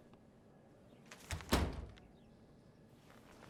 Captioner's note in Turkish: Kapı kapanma sesi